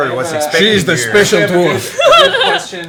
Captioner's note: same accent; Scottish accent